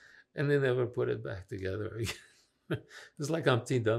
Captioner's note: laughing